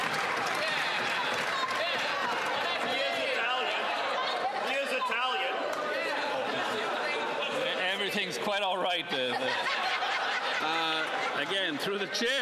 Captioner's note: some Applause